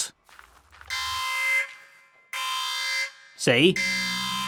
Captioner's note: alarm sounds